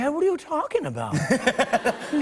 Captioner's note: laughter